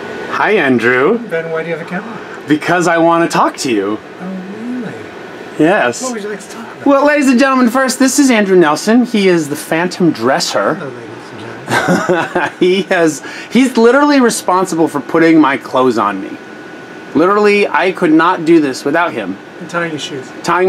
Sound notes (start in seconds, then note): 11.6 laughs